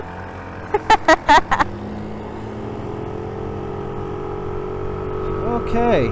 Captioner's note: laughs